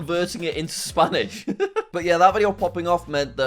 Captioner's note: laughs